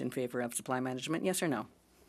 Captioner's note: speaking French